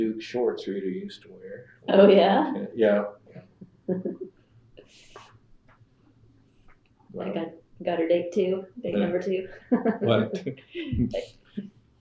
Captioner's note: laughs